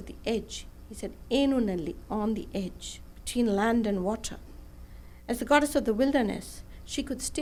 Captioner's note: non-english speech